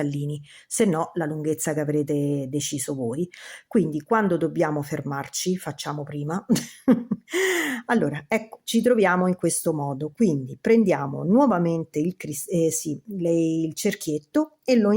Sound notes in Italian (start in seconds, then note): 6.5 risate